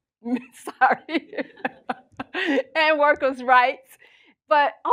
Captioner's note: laughs